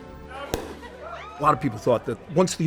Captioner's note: champagne pops